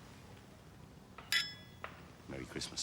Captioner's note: glasses clinking